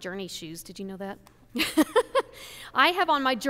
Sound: laughs

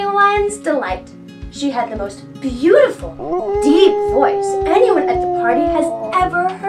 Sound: dog Howls

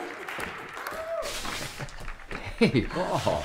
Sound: chuckling

